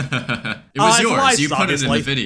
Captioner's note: laughs